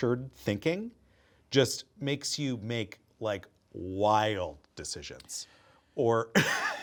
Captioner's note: chuckles